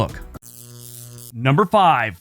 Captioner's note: static crackling